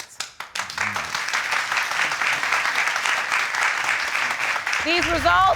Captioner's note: audience clapping